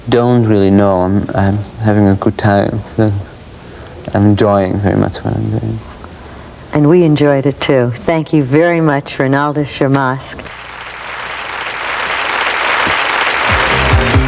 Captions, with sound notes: - I don't really know I'm having a good time and enjoying very much. - And we enjoyed it too. Thank you very much Ronaldus shamask. - [Crowd] Cheers.